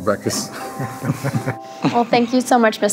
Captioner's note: both chuckling